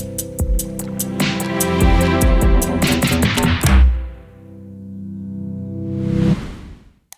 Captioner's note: graphics whooshing; keyboard typing